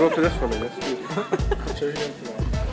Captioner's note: laughing